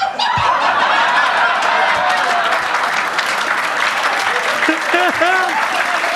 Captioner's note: audience laughs; audience cheers; audience claps